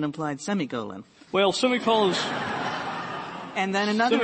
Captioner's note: laughter